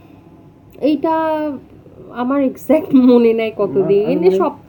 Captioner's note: laughs